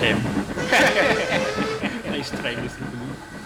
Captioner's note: Donald and Douglas laugh